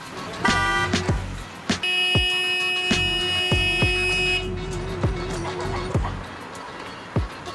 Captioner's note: beeping